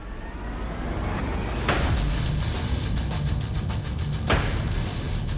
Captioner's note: blade impacts